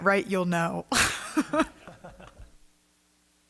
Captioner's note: laughter